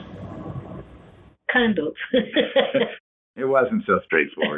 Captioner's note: laughs; laughs